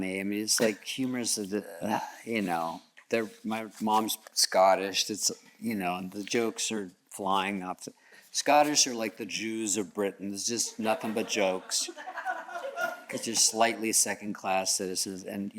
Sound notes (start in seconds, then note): 2.3 scoffs; 10.7 audience chuckles